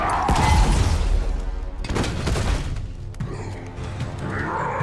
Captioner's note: Gravity Hammer thuds